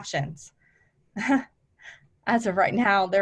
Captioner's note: laughs